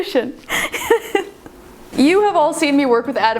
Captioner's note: laughing